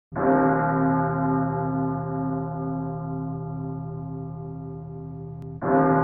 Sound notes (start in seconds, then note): 0.1 church bells tolling